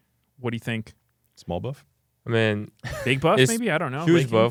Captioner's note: laughs